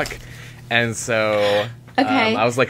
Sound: laughs

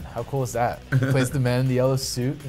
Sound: laughs

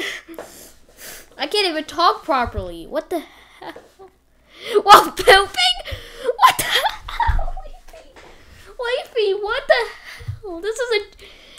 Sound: laughing

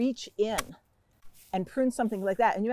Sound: scissors snaps

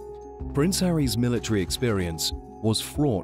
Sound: voiceover

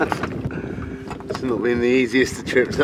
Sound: chuckling

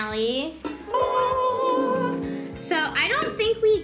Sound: magical sound

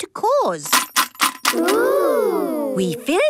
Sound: coins jangling

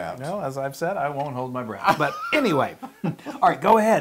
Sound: laugh

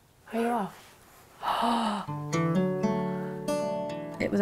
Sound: gasps

